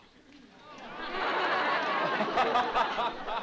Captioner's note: laughter